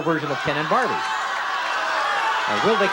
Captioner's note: audience shouting